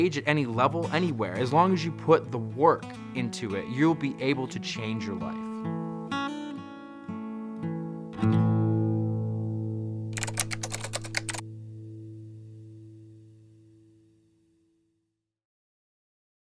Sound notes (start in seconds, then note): 10.1 typing on a keyboard